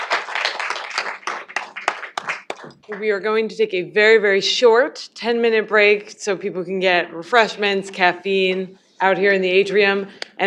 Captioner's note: applause